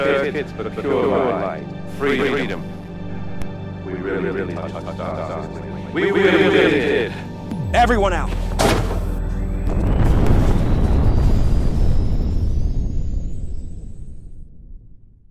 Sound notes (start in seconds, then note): 7.2 voice echoing; 10.3 explosion rumbling